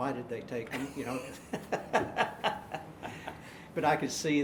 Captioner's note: laughing